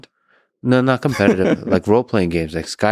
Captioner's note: laughing